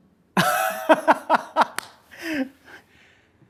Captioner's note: laughs loudly